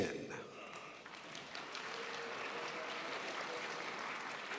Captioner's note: crowd applauds